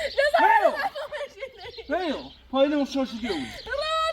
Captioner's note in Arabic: ضحك